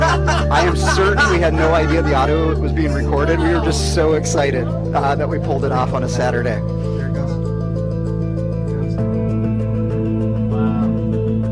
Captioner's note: laughter